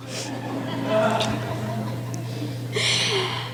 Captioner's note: laughing